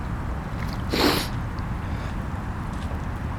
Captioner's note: sniffs